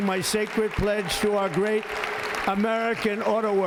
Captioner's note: applause